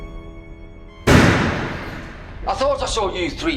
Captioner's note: door slams open